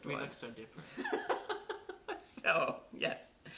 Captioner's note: laughter